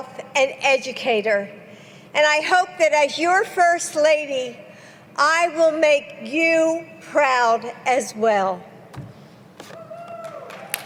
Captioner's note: applause